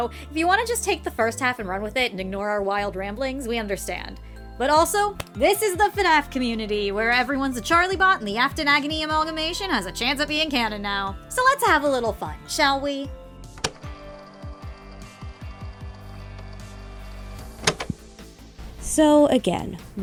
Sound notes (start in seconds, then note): 13.5 tape recorder sounds